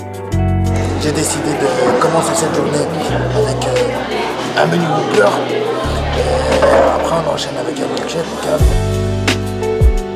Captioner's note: Stallone voice